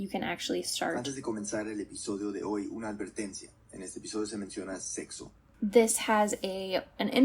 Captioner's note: podcast plays